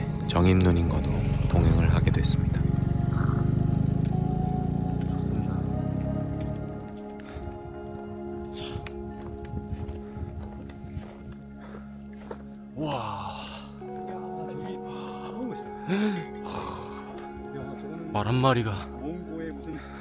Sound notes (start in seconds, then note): 16.4 snorts…